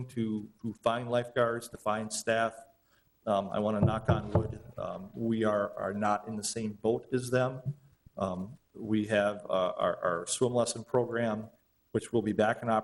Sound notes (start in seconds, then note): 3.8 knocking on table